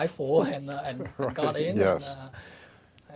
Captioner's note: chuckles